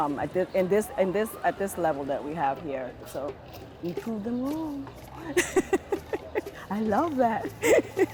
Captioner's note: laughter